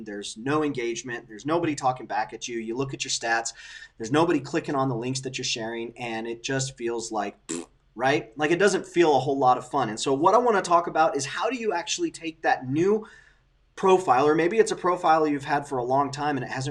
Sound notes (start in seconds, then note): 7.4 blows raspberry